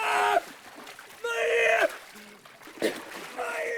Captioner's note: coughs